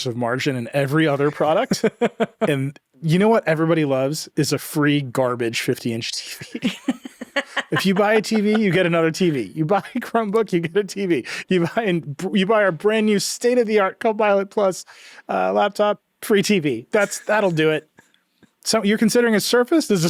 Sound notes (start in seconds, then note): 6.4 laughs